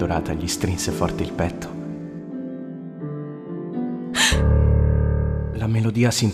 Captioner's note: she gasps in fear